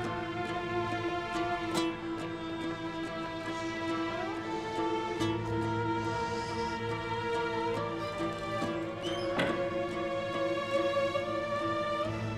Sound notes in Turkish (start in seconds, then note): 9.0 Kapı kapanma sesi